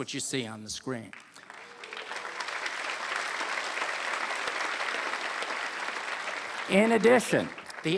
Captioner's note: applause